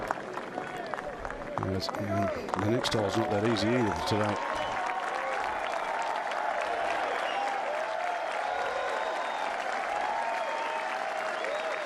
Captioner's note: applause